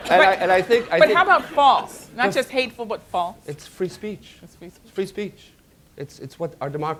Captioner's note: laughter